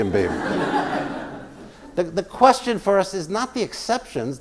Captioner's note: laugh